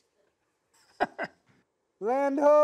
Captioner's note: laughs